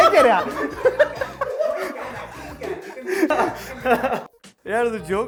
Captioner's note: laughing